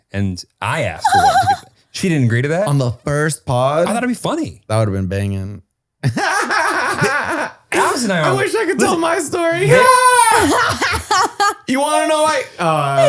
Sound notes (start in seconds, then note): 6.1 laughs; 10.4 laughs